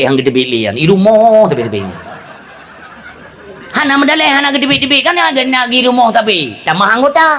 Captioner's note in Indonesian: tertawa